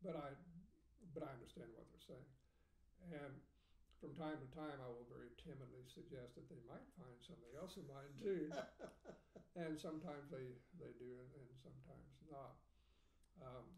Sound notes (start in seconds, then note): 7.5 laughing